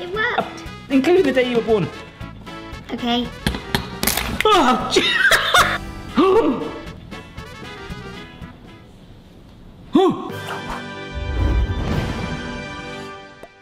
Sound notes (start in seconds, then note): 3.4 egg cracks; 4.6 laughs; 6.4 gasps; 10.0 gasps; 10.3 upbeat music